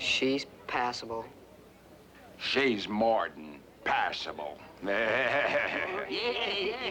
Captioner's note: laughing